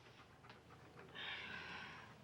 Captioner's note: sighs